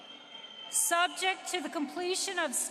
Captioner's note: applause